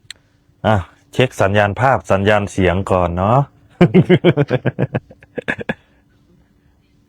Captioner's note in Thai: เสียงหัวเราะ